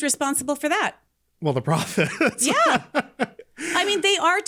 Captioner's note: laughing